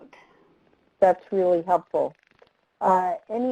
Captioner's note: voiceover